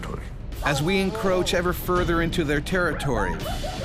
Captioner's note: voiceover